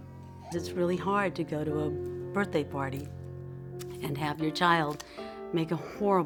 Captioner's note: female voice